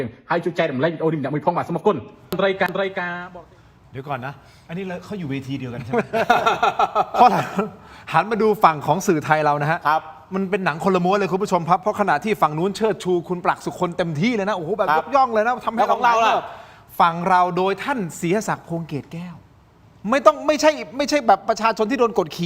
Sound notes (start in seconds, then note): 5.8 laughs